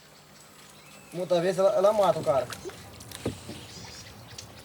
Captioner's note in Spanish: <i>habla en portugués</i>